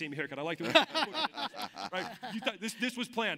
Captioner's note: laughs